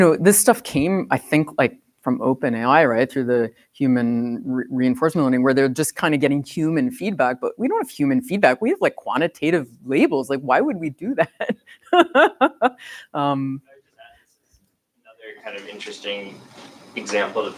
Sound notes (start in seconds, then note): 11.3 laughs